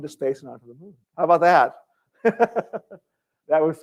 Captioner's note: laughter